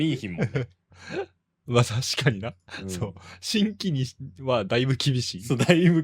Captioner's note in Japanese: 笑い